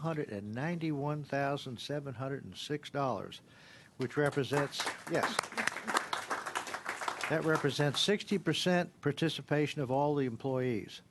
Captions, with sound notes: $91,000 PLUS WHICH REPRESENTS YES. >> (CLAPPING.) >> 60 PERCENT PARTICIPATION OF ALL THE EMPLOYEES THE